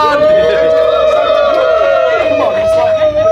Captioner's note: all applauding